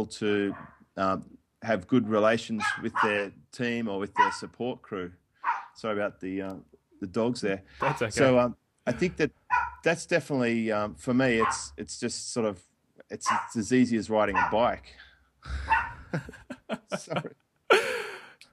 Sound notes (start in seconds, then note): 5.4 dog barking; 11.4 dog continually barking in background